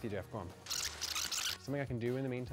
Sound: tape screeches

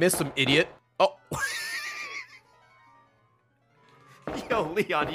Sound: laughs

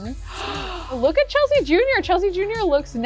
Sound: gasps

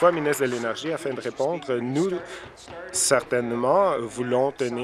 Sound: applause

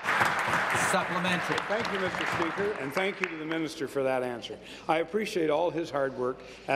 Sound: applause

